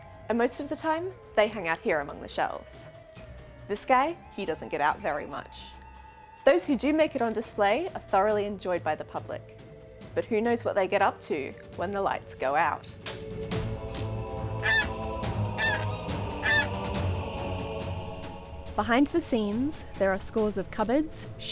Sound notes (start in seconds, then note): 16.3 seagull Squawking